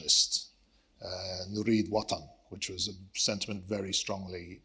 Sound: speaks Arabic

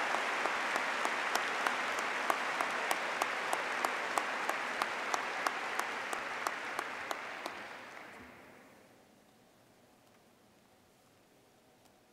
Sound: applause

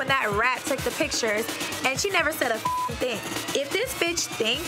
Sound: beep

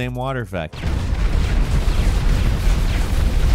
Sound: C4 explodes

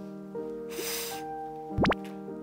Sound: inhaling

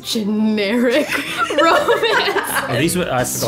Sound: laughs

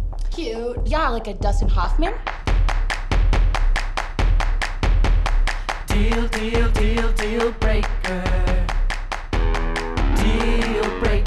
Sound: clapping

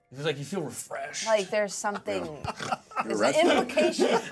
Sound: speaker laughs

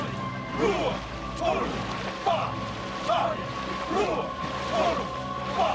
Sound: non-english speech

